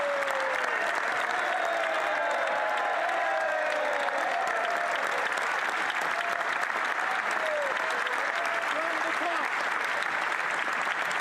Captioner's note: some Applause